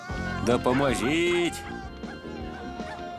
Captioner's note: Odie barking